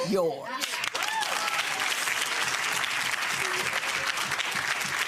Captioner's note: audience clapping